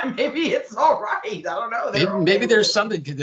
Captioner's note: laughing